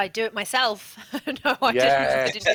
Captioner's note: laughter